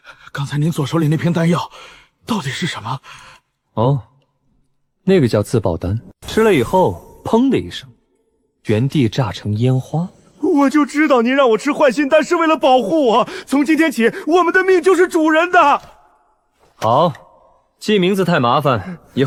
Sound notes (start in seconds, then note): 7.0 boom!